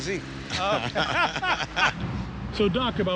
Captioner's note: both laughing